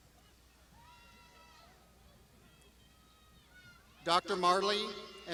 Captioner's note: graduands shouting